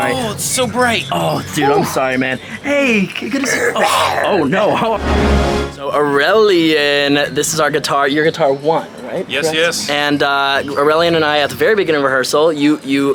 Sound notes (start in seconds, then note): 3.1 musician growls